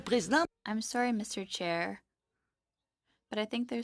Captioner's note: speaking French